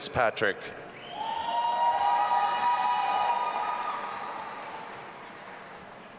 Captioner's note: audience applauding and cheering